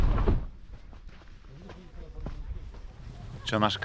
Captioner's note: footsteps and chatter